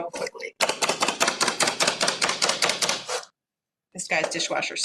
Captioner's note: chopper chopping